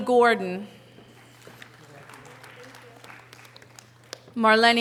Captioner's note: audience applause